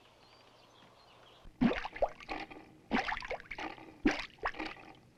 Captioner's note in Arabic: فقاقيع الماء